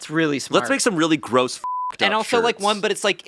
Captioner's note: beeping